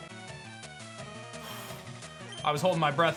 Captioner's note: scoffs